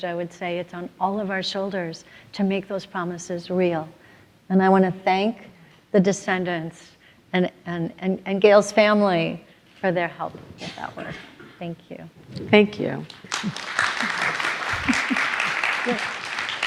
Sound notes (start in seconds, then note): 13.0 applause